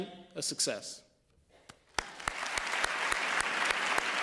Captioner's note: applause